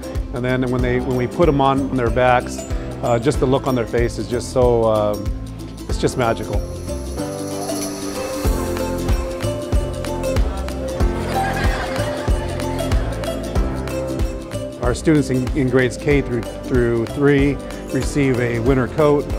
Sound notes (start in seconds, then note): 7.2 upbeat music; 11.0 children laughing